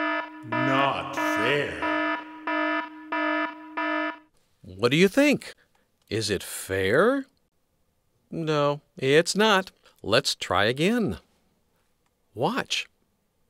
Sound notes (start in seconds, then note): 2.5 sirens beeping